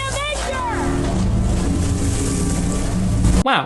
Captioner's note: water splashing; water flapping; intense instrumental music